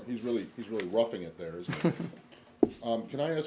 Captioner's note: laughter